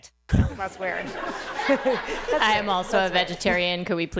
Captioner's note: laughter